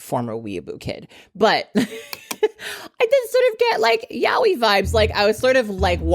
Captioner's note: chuckles